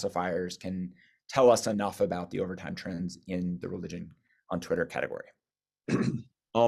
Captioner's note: cough